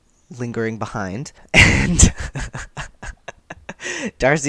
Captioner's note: laughter